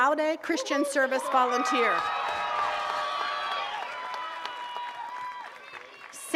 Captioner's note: attendees cheers and claps